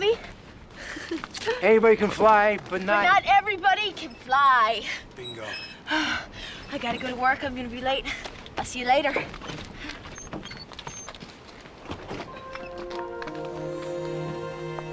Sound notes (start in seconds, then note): 0.1 chuckles; 5.6 panting